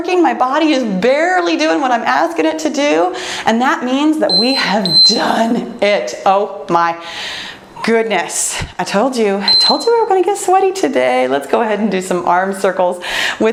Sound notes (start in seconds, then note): 4.3 timer beeps; 9.4 timer beeps